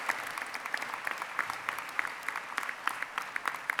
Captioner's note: applause